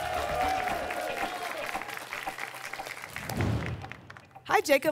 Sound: applause and cheering

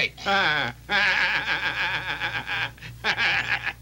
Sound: Homer laughing

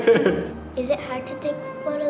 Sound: laughing

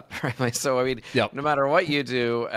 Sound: chuckles

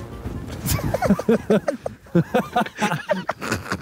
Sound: all laughing

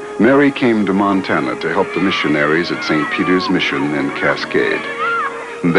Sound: children cheering

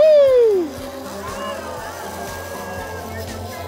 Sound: someone cheering

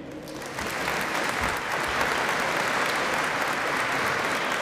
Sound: applause

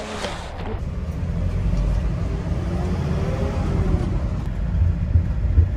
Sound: bus engine roaring

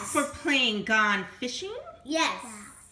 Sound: voiceover

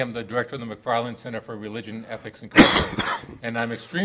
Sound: coughing

